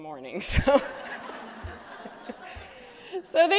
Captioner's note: laughter